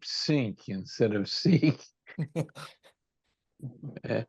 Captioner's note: laughs